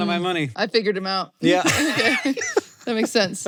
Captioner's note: laughs